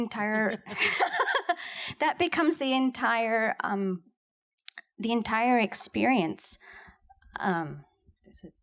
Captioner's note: laughs